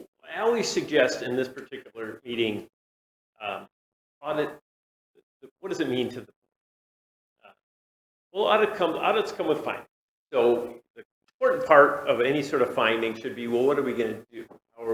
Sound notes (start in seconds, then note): 7.2 audio cuts out